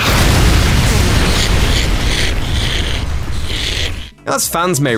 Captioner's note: explosion sound